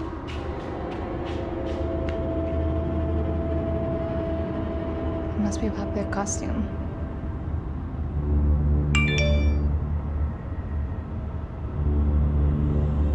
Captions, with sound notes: [ominous music] - It must be a popular costume. [text alert]